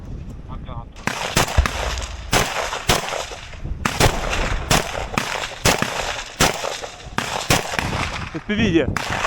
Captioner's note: sound of gunshots